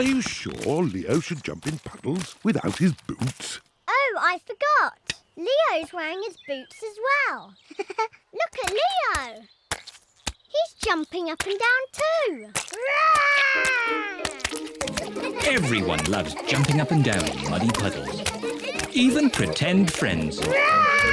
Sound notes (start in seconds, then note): 7.6 giggles